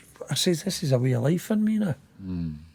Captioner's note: none